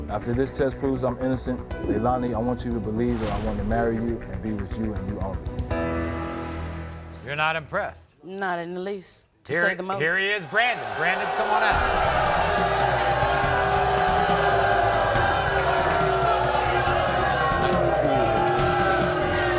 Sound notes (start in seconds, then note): 12.0 audience boos